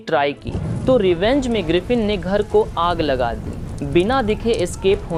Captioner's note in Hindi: आग लगने की आवाज़